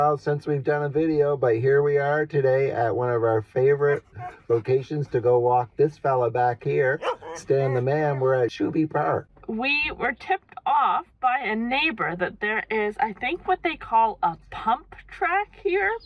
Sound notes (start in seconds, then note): 7.0 dog barks